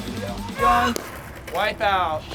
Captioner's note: yells